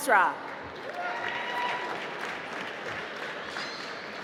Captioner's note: applause